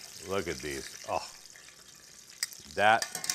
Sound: exclaims

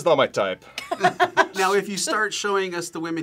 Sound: both laugh

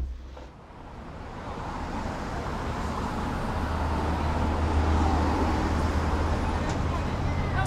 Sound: traffic whooshing; passersby chattering

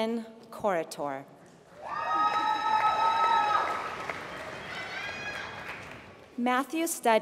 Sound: applause

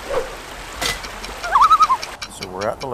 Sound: loon call

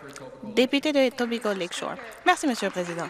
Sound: applause

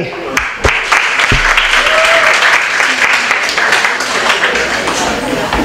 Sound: applause

